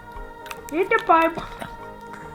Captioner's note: Spudgy voice